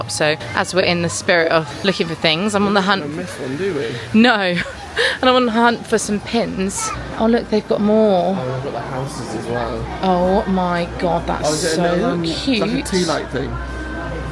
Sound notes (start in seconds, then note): 4.3 chuckling